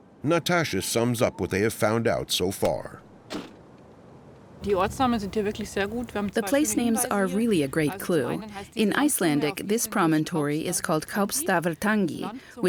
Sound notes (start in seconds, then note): 4.7 speaking German